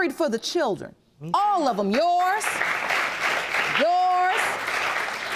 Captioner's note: audience applauding